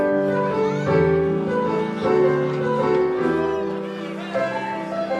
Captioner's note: piano music; indistinct chatter